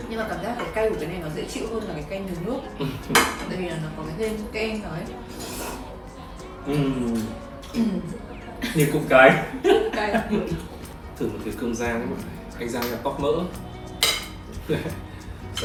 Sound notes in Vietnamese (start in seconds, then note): 7.7 hắng giọng; 8.6 tiếng cười